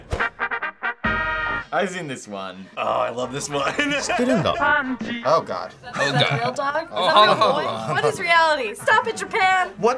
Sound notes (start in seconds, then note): 6.1 speaking Japanese